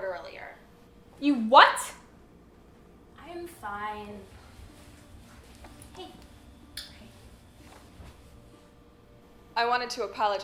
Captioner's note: kiss sound